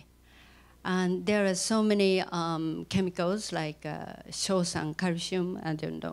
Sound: non-english speech

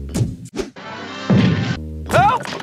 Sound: thunk

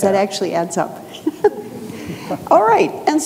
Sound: audience laughs

